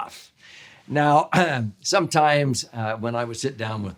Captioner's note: clears throat